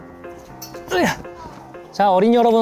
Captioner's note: grunt